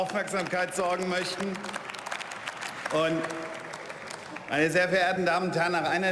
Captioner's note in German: Beifall